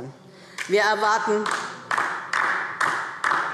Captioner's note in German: Beifall DIE LINKE